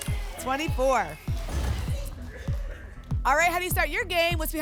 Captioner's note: whoosh; thump